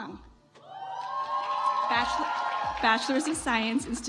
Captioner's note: audience applauds